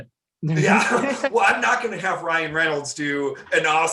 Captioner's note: laughing